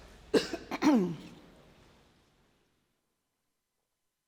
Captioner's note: Angela coughing